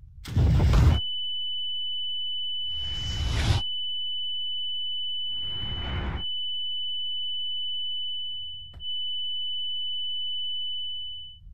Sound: tank fires and missile detonates

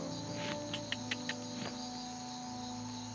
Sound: clicks tongue

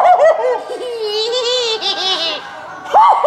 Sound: laughing; imitating laugh; spooky laughing

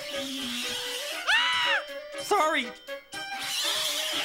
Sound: screams

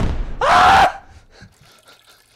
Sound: fire cracker exploding; Scout screaming

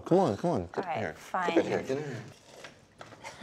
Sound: scoffs

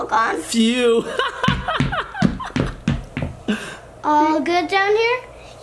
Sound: laughs; hands thumping

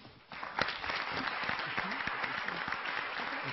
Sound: clapping

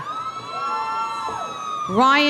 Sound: audience cheering

